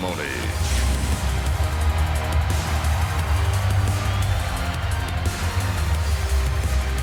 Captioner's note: upbeat music; audience cheering